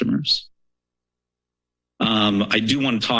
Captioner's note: pause